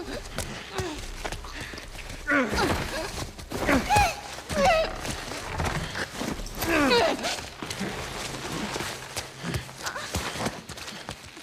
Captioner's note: struggling noises